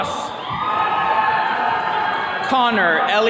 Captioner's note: attendees cheering